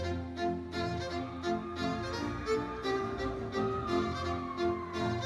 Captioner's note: audience cheering